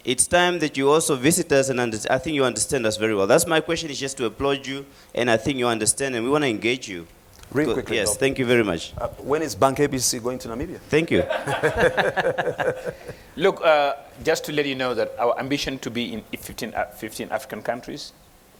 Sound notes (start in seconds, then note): 11.1 laughing